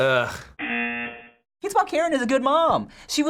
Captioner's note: buzzer